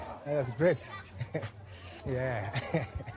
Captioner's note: laughs